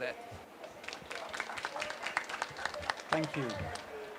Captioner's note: applause